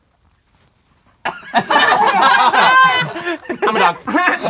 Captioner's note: crowd laughing